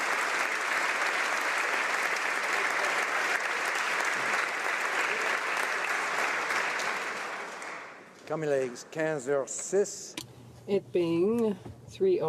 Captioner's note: applause